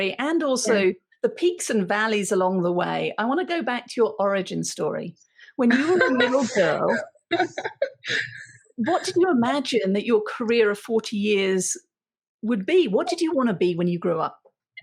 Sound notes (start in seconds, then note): 5.7 laughing